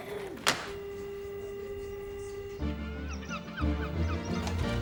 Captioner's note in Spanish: tono de llamada zumbido